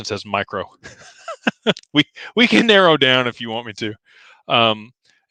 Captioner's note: laughter